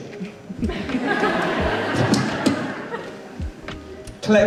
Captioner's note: audience Laughs